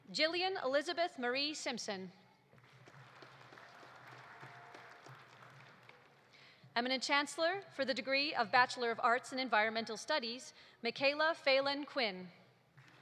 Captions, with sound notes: Jillian Elizabeth Marie Simpson. (audience applauding) Eminent Chancellor, for the degree of Bachelor of Arts in Environmental Studies: Michaela Phelan Quinn.